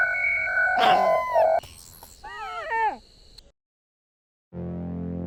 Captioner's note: mysterious beeping; cute baby animal noises